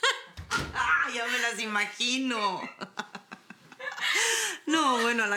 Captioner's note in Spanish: Carcajadas